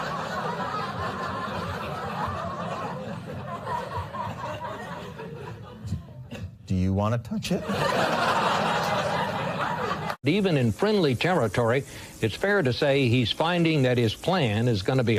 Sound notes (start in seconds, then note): 5.6 laughter